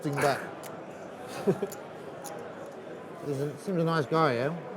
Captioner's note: chuckles